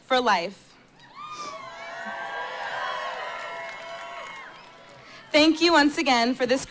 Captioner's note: cheering